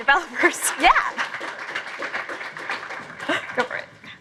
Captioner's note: applause